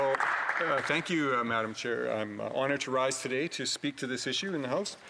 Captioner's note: some Applause